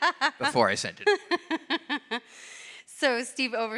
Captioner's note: laughs